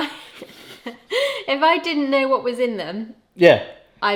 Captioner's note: laughs